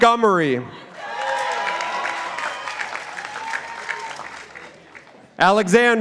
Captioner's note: participants applauding